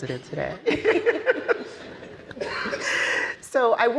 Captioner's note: panelists laughing